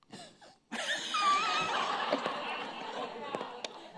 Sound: laughing

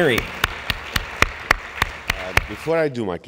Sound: audience applauding

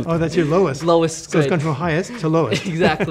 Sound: laughing

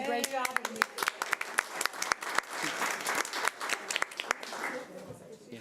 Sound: audience applauding

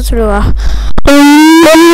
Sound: inhales

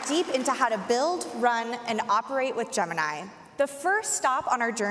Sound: applause

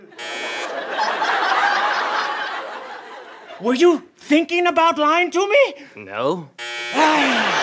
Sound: buzzing

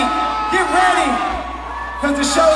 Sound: audience Booing

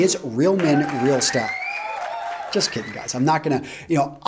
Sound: applause

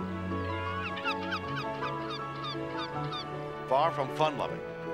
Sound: gulls cawing

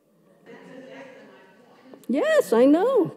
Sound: speaks off microphone

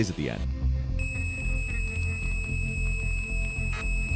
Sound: tape screeches

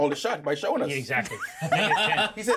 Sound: laughs

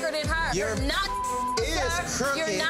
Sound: beep

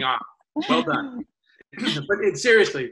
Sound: laughs

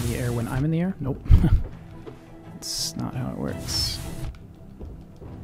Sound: chuckling

